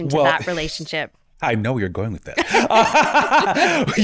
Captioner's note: laughing